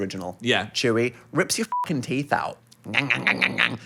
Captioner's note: beep